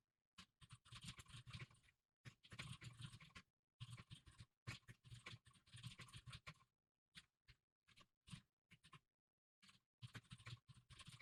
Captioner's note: typing sounds